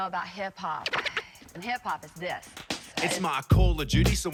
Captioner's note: record scratches